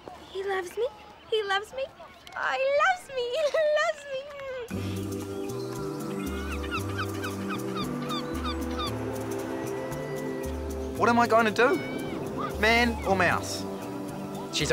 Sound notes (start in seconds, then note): 3.2 laughs; 5.2 soft rock music